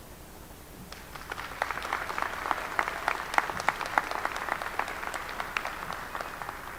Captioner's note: applause